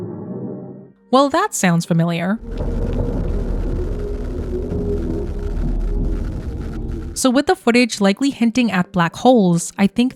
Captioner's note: deep droning sounds playing